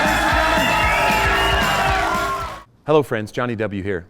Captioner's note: audience cheering